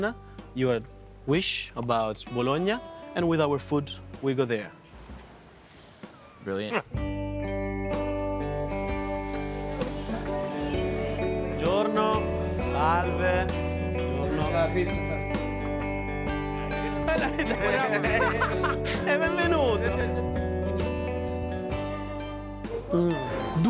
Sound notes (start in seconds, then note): 6.6 chuckles; 11.2 speaking Italian; 16.8 laughter, speaking Italian